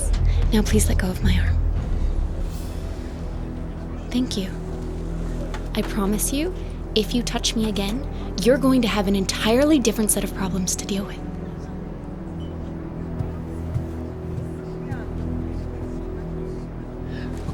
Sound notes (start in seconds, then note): none